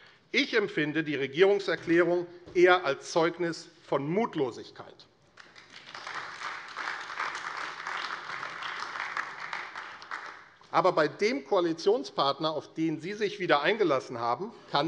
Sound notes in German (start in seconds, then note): 5.3 Beifall AfD